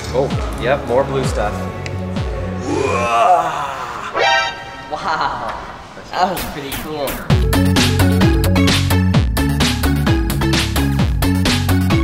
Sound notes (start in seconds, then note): 2.6 grunting; 2.9 electronic ringing; 6.2 upbeat electronic music